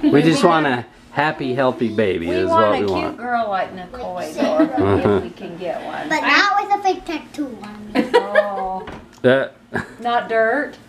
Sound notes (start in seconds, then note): 7.9 laughs